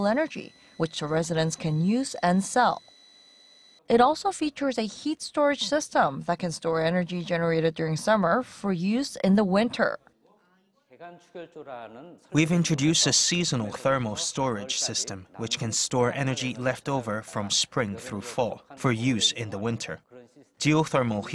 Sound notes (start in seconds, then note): 10.5 Korean